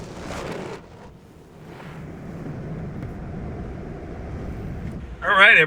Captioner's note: car engine revving